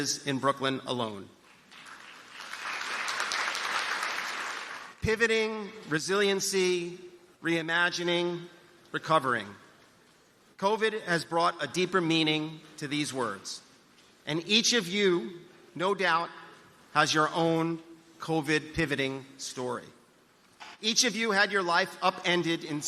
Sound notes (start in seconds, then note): 3.8 applause